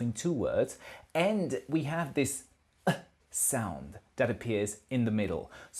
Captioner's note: exhale